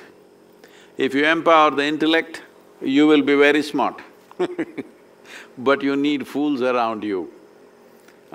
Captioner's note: laughs